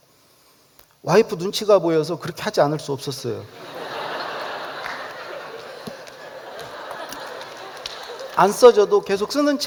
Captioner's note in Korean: 웃음